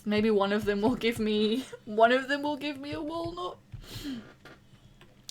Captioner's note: laughing